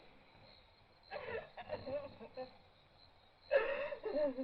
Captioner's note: woman crying